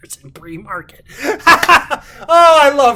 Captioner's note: laughs